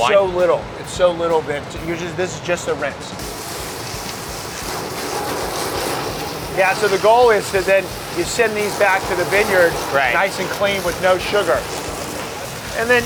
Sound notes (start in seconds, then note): 3.3 water spraying